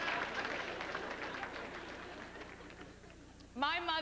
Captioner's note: sparse applause